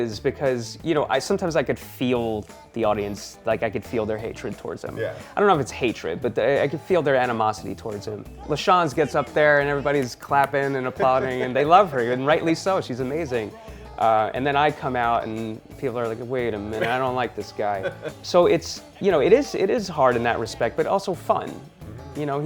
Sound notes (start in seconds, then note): 10.3 Michael claps; 10.8 laughs